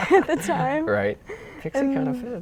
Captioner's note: laughing